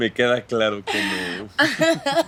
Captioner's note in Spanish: Risas